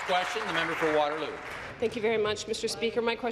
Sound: applause

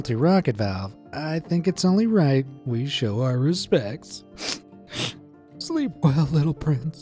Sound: sobs

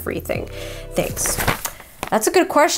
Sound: paper rustling

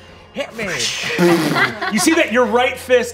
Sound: imitates magic whirring

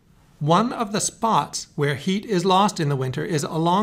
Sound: voiceover

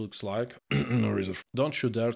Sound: cough

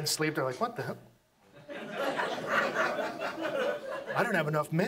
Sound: audience laughs

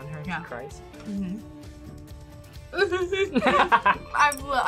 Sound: blubbers; laughs

